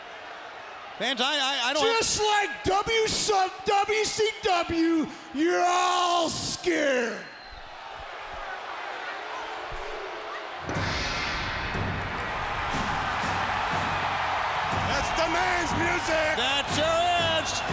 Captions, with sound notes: Fans, I don't- Just like WCW, you're all scared. (dramatic music) (crowd cheering) That's the man's music! That sure is!